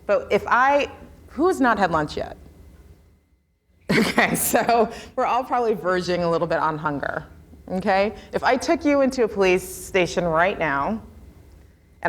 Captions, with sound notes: But if I, who's not had lunch yet? (laughs) Okay, so we're all probably verging a little bit on hunger, okay? If I took you into a police station right now